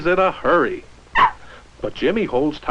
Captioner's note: barking